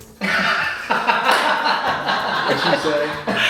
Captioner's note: laughing